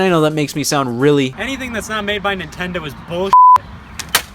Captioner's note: beep